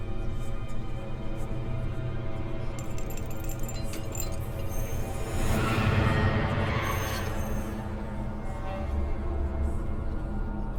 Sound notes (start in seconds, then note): 2.7 chains rattling; 5.4 dramatic music; 5.4 eerie whispering